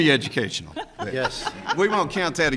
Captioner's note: people laughing; laughs